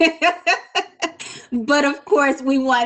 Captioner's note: woman laughs